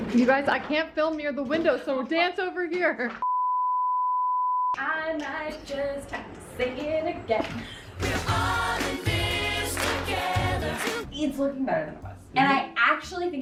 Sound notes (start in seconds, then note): 3.2 screen beeping; 5.0 sing-song